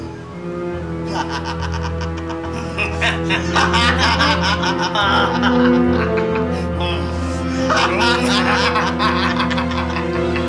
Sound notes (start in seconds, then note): 0.1 sinister music playing; 1.0 both laughing